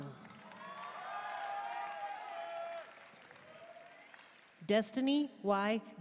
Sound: audience cheering and applauding

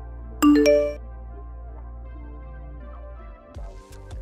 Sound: message dings

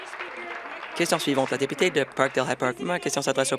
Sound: applause

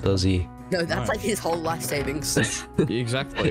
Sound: laughs

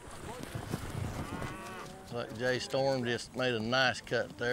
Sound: hoof beats, cows mooing

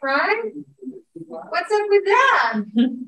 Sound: audience muttering

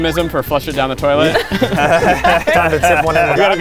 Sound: laughing

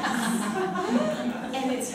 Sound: chuckling

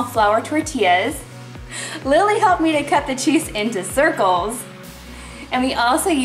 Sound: laughs

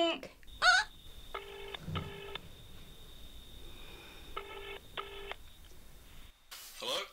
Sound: phone ringing

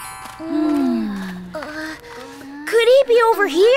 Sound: all groan slightly

